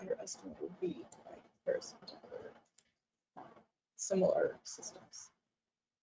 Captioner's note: audio drops out